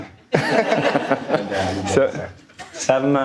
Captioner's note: audience laughing